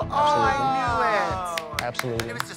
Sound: Trixie applauds

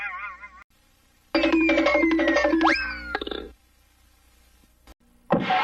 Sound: cartoon sounds continuing

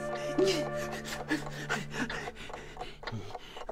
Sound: sighs; panting; clock ticking

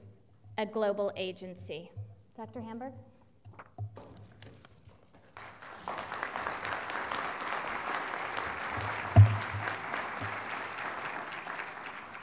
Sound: applause

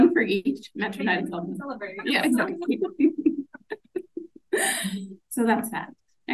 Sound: laughs

